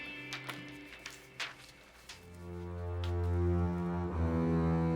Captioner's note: paper rustles